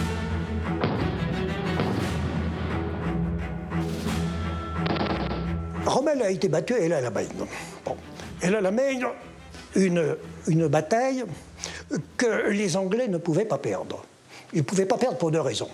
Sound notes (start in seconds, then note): 1.2 explosions booming